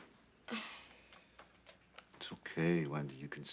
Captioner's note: sighs wearily